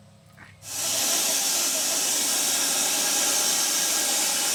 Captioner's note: saw buzzing